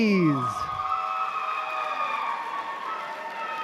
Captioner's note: applause